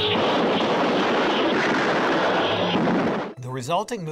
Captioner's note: guns firing